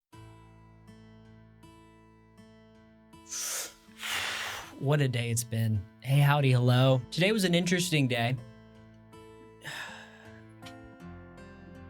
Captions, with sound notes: *deep breath* What a day it's been. Hey, howdy, hello. Today was an interesting day—